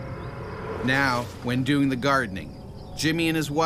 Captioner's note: voiceover